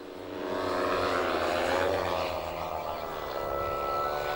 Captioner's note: motor putting